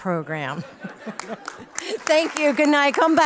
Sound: applause

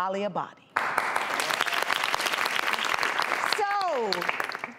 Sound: audience applauds

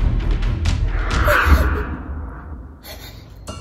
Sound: sound of sobbing

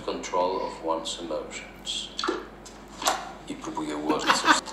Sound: foreign language; laughs

